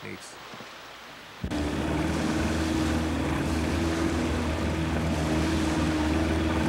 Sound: motor running

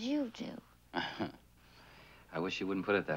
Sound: Donald laughs

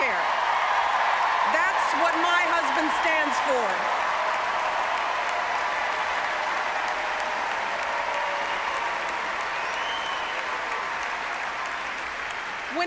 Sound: applause

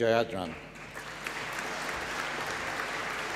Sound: applause

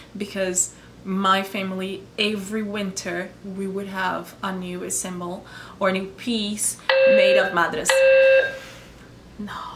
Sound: fire alarm; FIRE ALARM VOICE: "Attention, Attention"

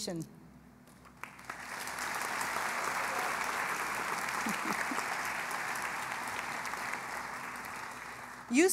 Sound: applause

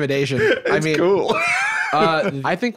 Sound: laughing

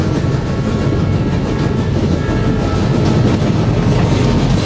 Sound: train passing

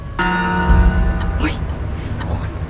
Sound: clock chiming

